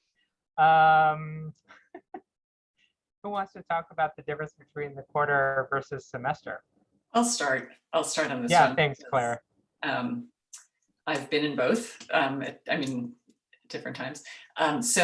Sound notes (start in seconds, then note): 1.8 laughs